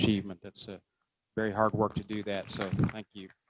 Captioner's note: applause